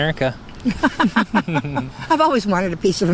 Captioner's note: both laughing